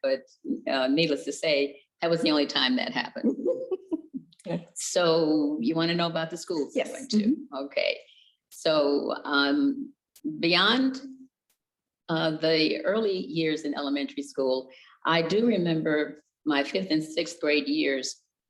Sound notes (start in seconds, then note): 3.2 giggles